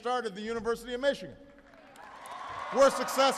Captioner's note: applause